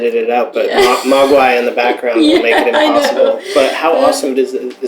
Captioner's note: laughter